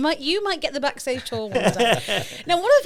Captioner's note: laughs